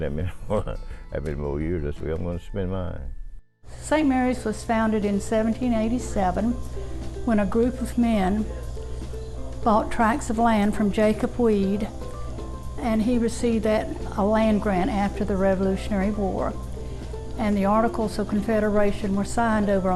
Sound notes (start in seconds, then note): 1.9 chuckles